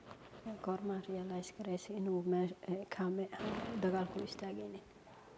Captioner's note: speaking foreign language